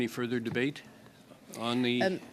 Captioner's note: speaking indigenous language